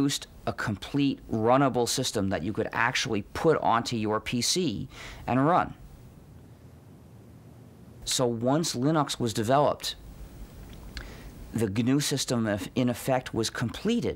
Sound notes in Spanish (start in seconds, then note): 5.2 corte de audio